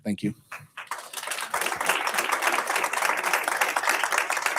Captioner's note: audience applauds